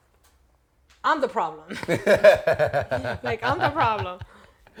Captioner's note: laughter